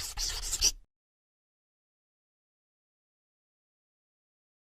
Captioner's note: pencil scratching